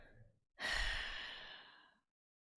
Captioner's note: sighs